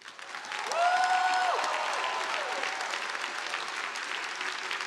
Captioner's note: audience applauding